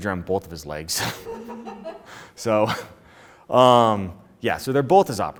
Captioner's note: woman laughs